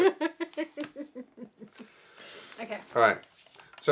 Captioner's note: chuckles